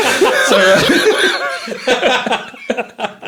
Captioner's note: laughing